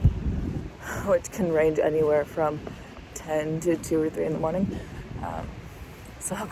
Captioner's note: wind gusts; exhales